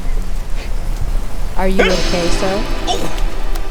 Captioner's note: he gasps in horror